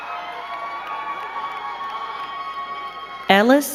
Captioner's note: crowd cheering and clapping